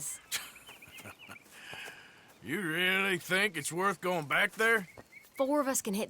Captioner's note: laughs